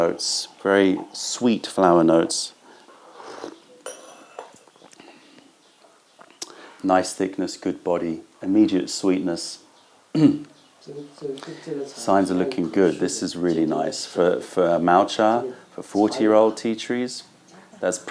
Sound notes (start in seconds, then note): 2.8 sips tea